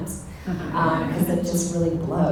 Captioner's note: audience laughter